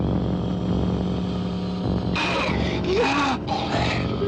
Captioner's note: snarling